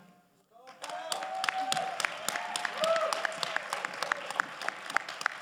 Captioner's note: crowd applauding